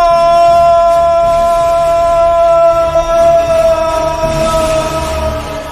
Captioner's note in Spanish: gritos